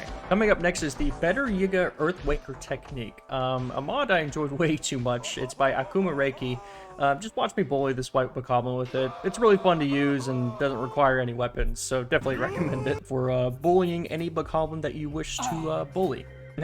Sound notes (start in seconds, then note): 4.9 screams of Agony